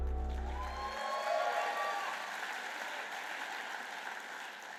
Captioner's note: applause and cheering